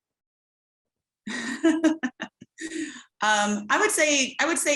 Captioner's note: laughs